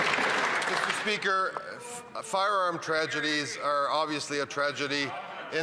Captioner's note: applause